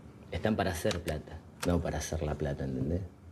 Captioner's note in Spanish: none